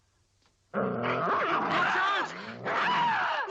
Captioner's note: dog barking; Leonor groans